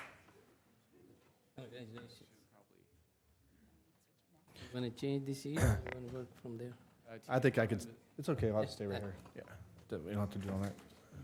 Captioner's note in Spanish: aplausos